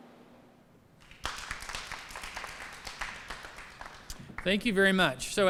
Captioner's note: applause